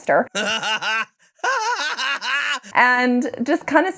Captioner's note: laughing